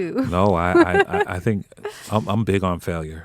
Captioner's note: laughing